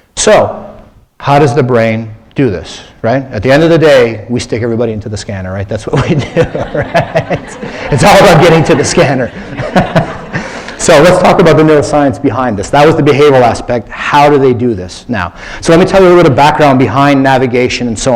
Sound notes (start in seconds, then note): 5.9 laughter; 5.9 laughs; 10.7 laughter